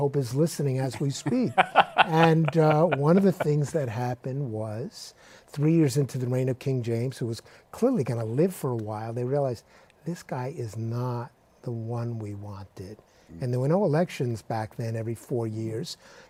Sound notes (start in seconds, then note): 0.9 laughs